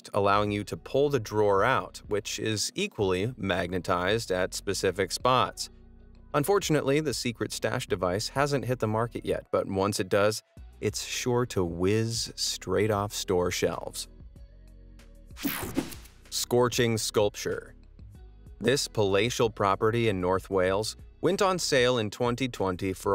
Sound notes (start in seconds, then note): 15.4 air whooshing; 18.6 upbeat music